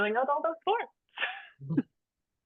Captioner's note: chuckling